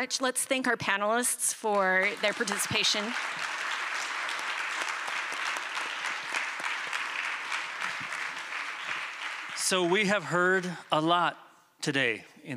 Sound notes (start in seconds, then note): 1.6 applause